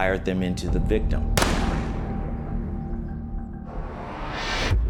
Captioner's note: gun firing; pensive music